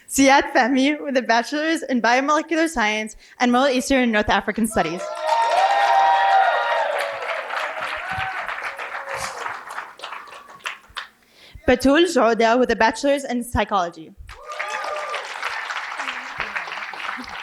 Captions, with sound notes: Siet Tavive with a bachelor's in biomolecular science and Middle Eastern in North African studies. (cheering and applause) Fadul (foreign language) with a bachelor's in psychology. (applause)